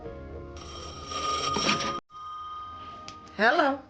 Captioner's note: telephone rings